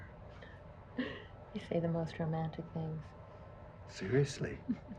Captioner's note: laughs